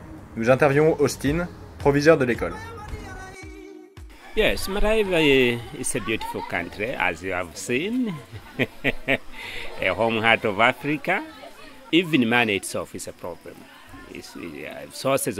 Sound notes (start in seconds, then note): 8.5 laughing